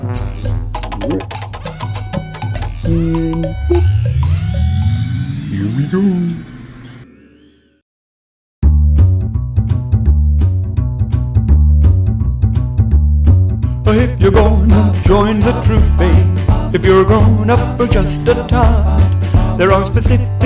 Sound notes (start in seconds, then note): 0.8 clacking noises; 3.7 powering up noises